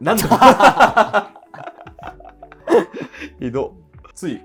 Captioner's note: laughing